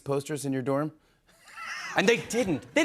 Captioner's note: laughs